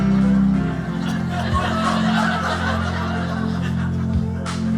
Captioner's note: audience laughing